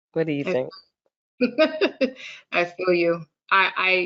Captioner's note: laughs